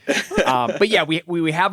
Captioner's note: laughs